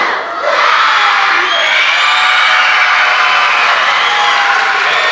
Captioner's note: everyone cheering